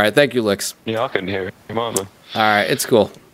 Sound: voiceover

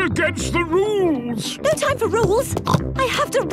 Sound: snorts

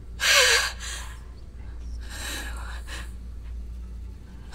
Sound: lady gasping; lady breathing heavily

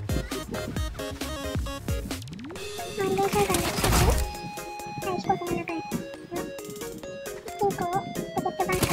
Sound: chicken rushing!

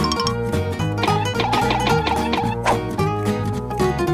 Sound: dabbing sounds

